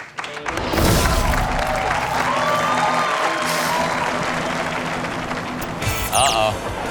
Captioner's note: audience cheers; classic rock music